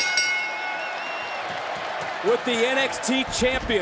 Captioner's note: bell rings